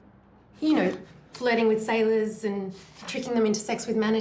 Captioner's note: none